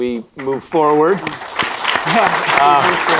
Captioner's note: applause